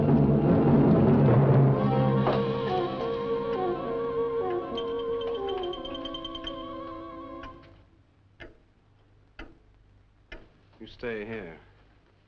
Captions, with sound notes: (clock ticking) You stay here.